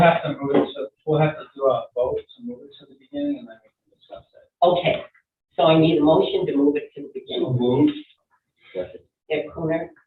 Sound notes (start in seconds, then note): none